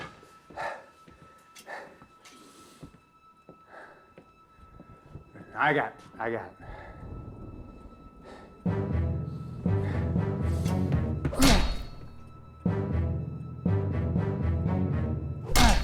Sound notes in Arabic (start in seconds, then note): 4.4 هدير الرعد; 7.1 موسيقى أوركسترالية درامية